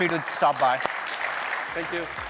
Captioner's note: applause